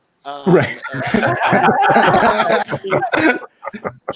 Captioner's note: participants laughing